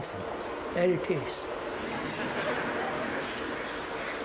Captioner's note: noise of train